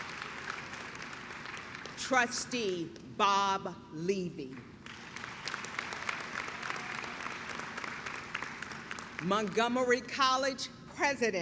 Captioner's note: clapping